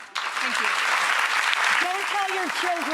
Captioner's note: audience applauds